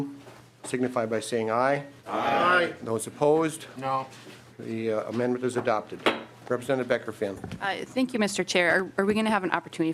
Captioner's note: chorus of ayes